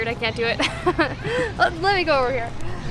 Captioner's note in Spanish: risas